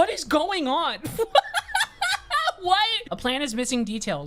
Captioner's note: laughing